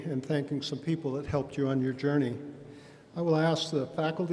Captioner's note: none